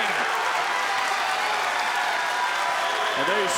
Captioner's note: crowd cheering